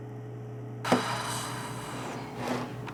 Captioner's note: sighs